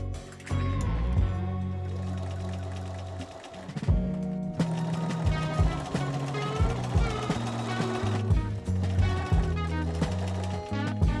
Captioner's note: more sewing machine noises